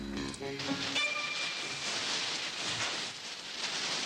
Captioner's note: fire sizzling